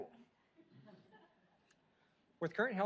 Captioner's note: audience laughs